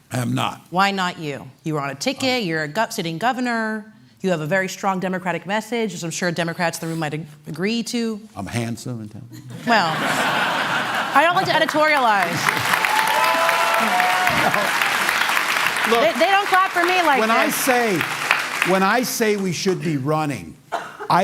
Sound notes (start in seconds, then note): 13.2 applause